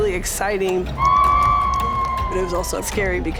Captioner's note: cheering